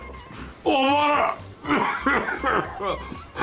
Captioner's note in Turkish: Öksürme sesi